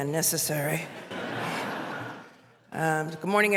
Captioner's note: laughter